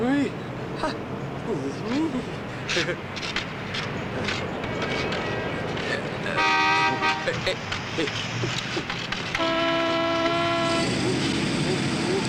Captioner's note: horn honking